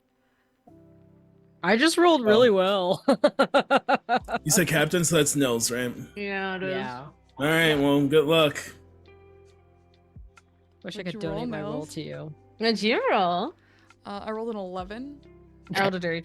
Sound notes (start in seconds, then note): 6.6 laughs